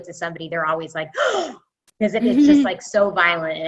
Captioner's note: impression of surprised